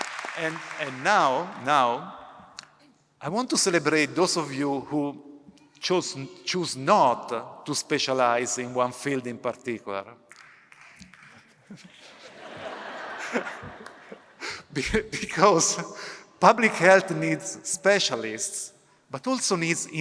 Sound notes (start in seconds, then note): 10.3 one person clapping; 11.4 laughter